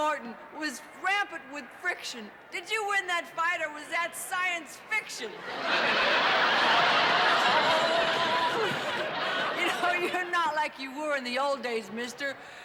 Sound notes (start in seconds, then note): 5.3 laughter